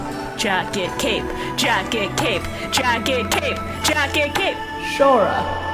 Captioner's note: pounding on chair